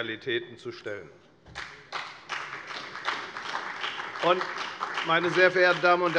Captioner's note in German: Beifall bei der FDP und bei Abgeordneten der SPD